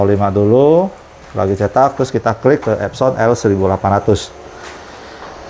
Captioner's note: printer machine noise